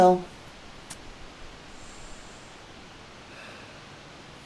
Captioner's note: inhales and exhales